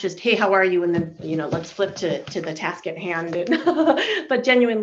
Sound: laughing

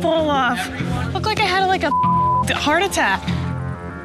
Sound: beep

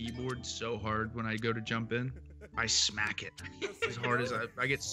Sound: laugh

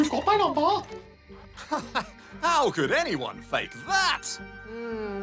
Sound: laughs

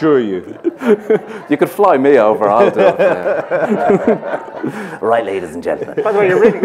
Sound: laughter; laughs

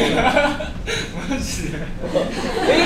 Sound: laughs

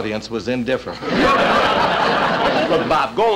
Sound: audience Laughing

